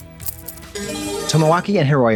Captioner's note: bright chime